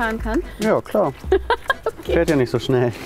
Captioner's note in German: lachend